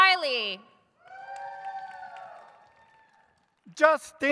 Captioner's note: audience cheers